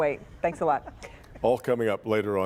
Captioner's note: laughter